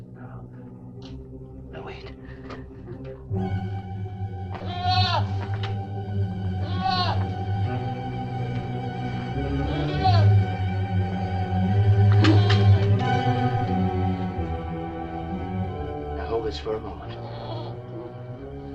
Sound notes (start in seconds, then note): 4.5 goat bleating; 4.6 suspenseful music